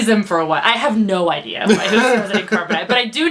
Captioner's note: laughs